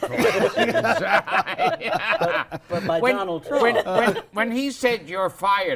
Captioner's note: laughter